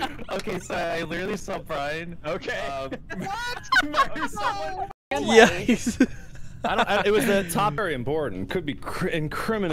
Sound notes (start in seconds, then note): 2.4 laughing; 2.6 laughter; 6.6 laughter